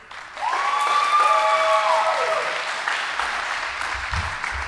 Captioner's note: audience applauding